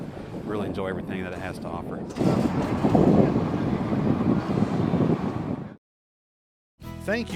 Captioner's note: hot air balloon sounds and wind